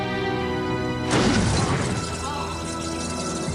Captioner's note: <i> explosion, then Davy screams